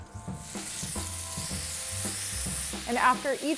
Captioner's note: steak sizzling